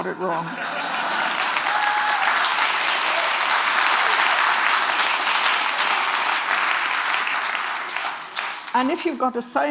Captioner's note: Applause